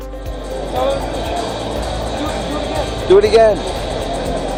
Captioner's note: crowd noise